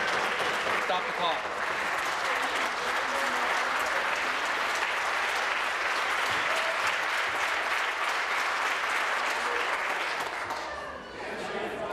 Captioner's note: applause